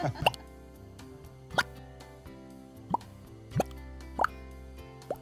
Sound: popping wink sounds

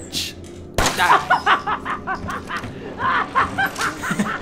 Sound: Marguerite laughs uncontrollably; laughs nervously

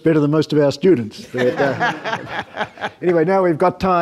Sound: panelists and audience laugh

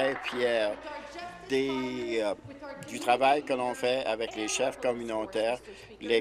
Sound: applause

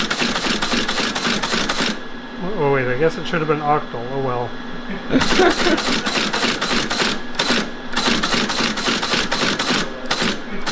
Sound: team laughs

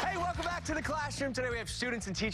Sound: cheers and applause

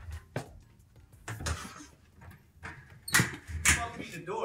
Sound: door opening

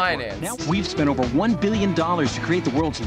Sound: voice-over

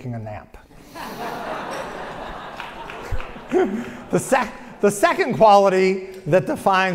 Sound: laugh; applause

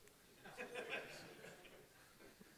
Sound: laughing

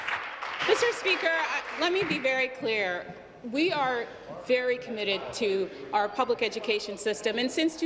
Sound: applause

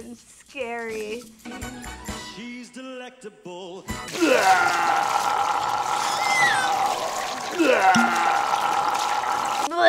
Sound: puking sound effect

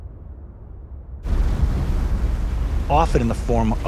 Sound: water whooshing

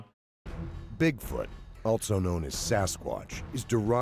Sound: voiceover

